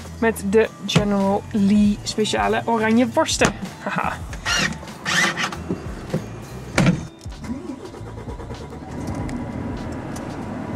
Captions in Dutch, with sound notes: Met de General Lee speciale oranje worsten, haha *START MOTOR*